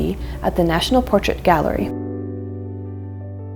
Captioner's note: none